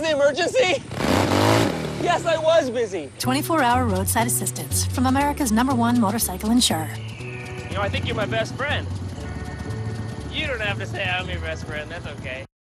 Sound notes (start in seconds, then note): 0.7 engine revving